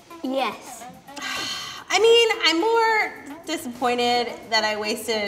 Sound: sighs

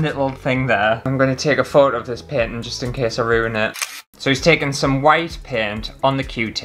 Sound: click

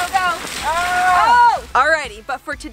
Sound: yelling

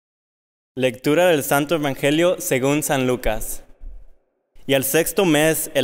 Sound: speaking in Spanish

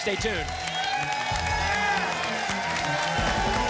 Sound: applause and cheering cont

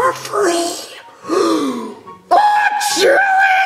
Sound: gasps

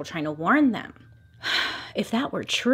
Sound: sigh

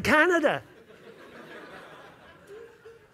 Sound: laughter

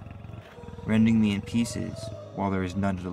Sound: growling

